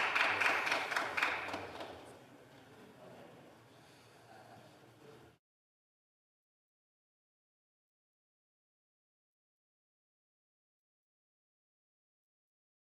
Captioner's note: some Applause